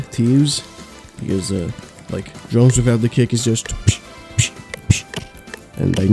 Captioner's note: epic beatboxing demonstration